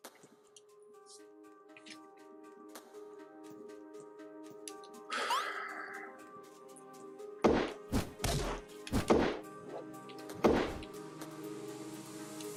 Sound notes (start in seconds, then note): 5.1 sighs